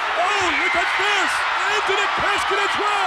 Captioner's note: audience cheers